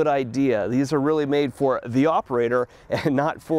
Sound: chuckles

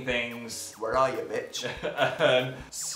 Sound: laughs

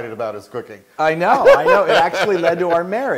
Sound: laugh

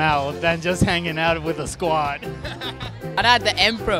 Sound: laughs

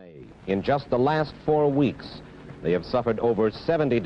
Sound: radio Announcer

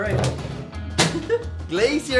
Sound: laughs

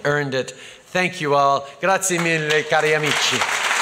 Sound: applause

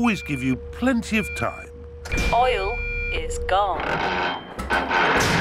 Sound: creaking

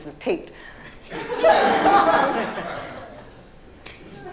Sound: laughter

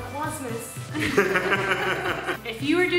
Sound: laughing

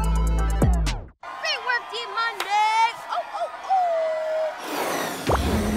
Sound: cheering

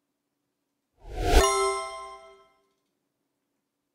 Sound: ding

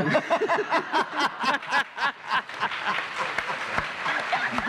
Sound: laughter

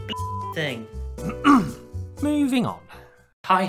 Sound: cough

